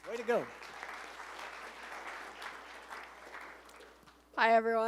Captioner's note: applause